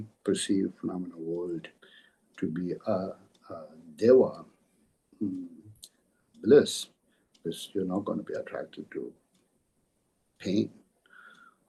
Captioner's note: tibetan